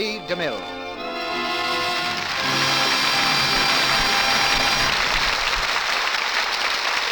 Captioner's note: applause